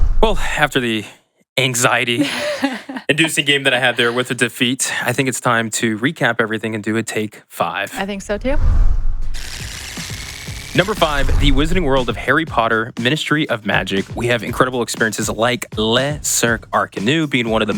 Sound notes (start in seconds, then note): 9.1 device whirs; 9.3 upbeat music